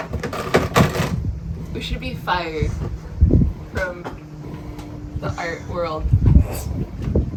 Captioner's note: snicker